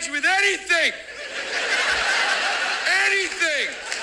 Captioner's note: television audience laughs